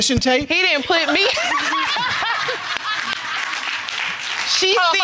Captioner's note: all laughing